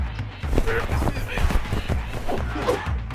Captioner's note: blows thudding; both grunting; ax whooshing